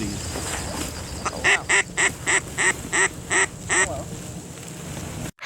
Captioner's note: duck call sounds